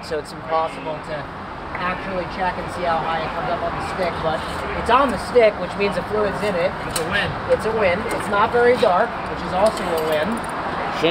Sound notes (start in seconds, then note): none